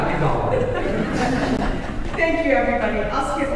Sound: audience laughing

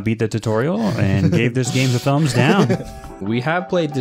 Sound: starts laughing

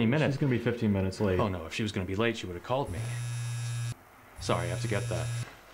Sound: phone vibrates

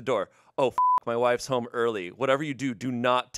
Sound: beep

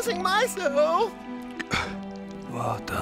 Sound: scoffs

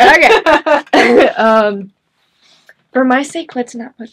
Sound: chuckles

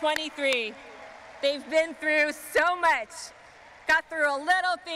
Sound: crowd cheering

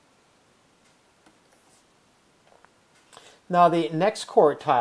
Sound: writing

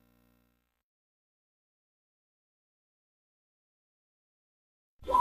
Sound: silence

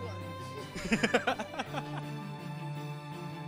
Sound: both laugh; gentle music

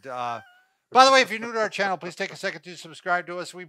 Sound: laughs

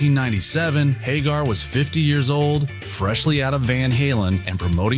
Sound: none

